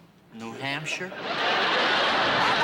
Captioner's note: laughter